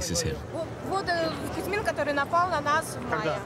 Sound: speaking in foreign language

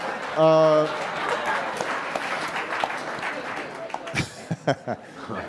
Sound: audience laughing and applauding

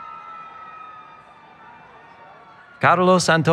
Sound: cheering

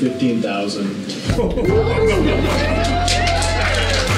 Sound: applause

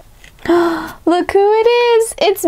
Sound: gasps

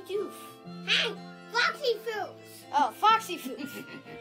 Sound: people laughing

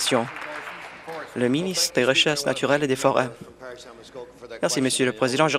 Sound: applause

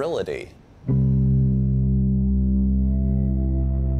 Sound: deep horn

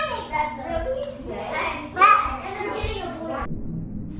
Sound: kids playing

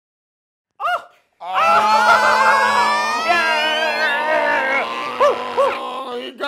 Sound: cheering

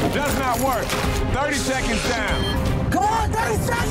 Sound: digital beeping

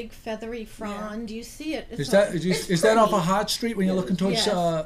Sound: voiceover

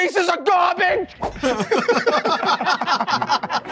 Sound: Tenderloins laughing

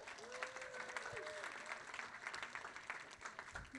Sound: applause

